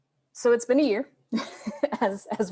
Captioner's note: laughs